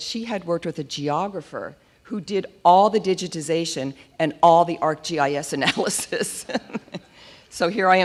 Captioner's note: laughs